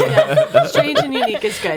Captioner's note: laughing